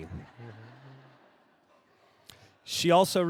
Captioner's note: audience laughing